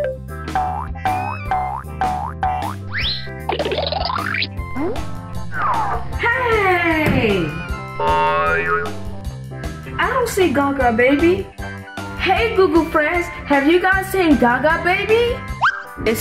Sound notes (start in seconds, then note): 0.9 footsteps boinging